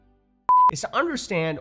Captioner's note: audio beeps